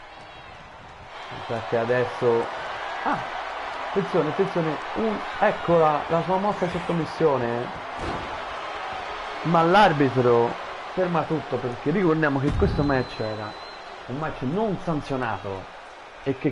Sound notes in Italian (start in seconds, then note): 1.0 Applauso